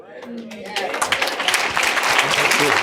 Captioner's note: applause